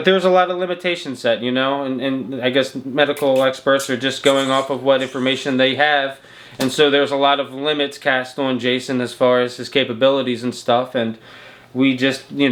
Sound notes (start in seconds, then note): 6.0 smooches